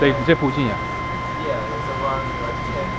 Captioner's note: mandarin